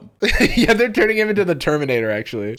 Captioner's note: laughing